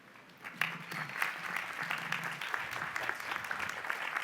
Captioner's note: applause